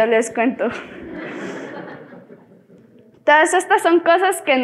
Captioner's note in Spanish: Risas